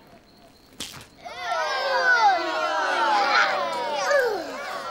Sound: crowd exclaiming

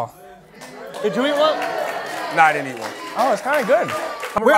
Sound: applause

